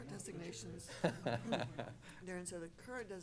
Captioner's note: laughing